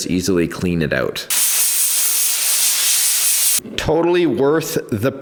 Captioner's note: air gun blowing